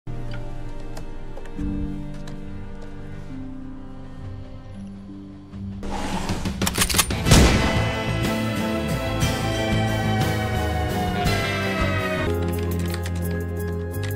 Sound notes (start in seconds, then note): 5.9 sound of opening drawer revealing gun; 6.6 cocking of gun; 12.2 sound of typing on keyboard